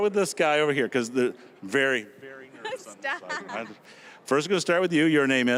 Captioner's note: laughing